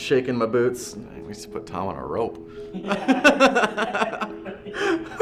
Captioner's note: laughter